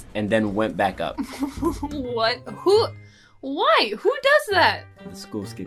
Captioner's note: laughs